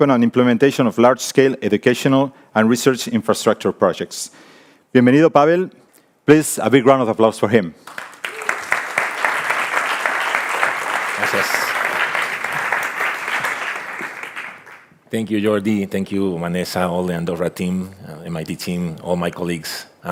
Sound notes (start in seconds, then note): 7.8 audience applauding; 11.4 speaks in foreign language